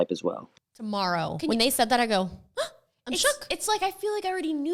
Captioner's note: gasps